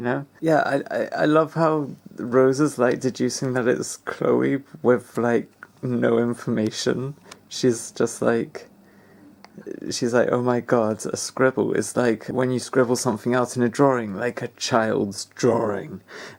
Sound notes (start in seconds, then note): none